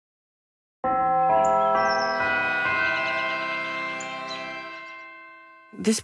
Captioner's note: bell chimes